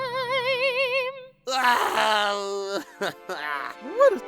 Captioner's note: nickel cries